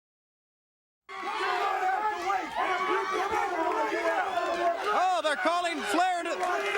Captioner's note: crowd chatter